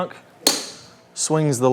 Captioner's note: tee clinks